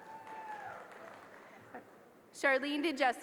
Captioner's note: applause